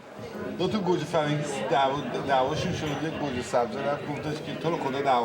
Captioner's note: men speaking a foreign language